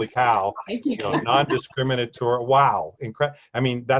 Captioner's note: laughs